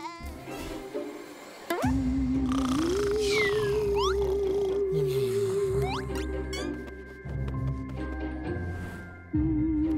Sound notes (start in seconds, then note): 2.4 snoring